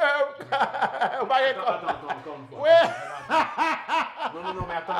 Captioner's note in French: rires